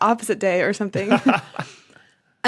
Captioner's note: laughs